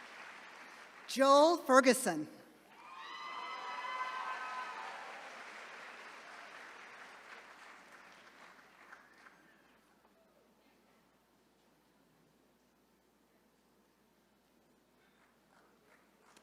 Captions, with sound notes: Joel Ferguson. (attendees cheering)